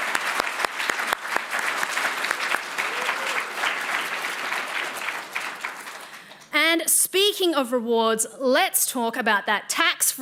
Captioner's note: applause